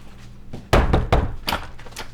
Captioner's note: knocking